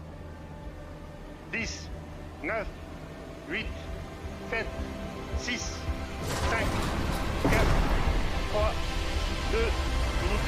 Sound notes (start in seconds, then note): 0.1 speaking French; 5.1 counting down in French